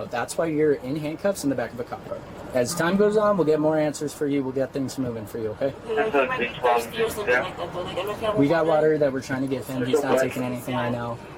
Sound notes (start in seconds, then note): 5.7 radio chatter